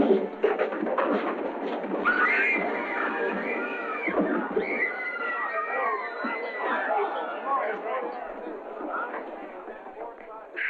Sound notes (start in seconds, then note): 2.0 screaming